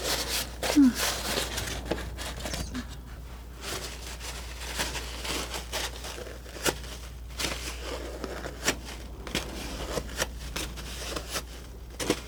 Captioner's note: scratching